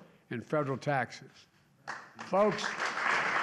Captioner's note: applause